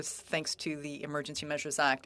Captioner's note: speaking French